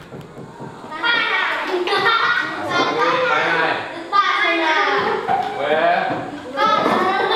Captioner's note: foreign language; kids chuckling